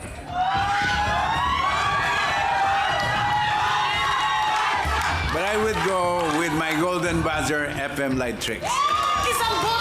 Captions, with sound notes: [AUDIENCE CHEERING] But I will go with my Golden Buzzer, FM Lightrix.